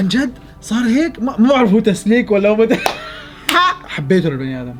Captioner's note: laughter